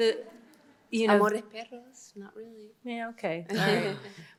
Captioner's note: indistinct chatter